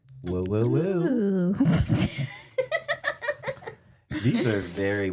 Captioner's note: laughs